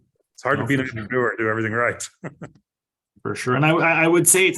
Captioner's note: chuckles